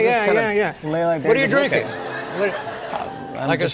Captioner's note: light laughter